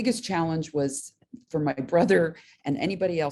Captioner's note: laughs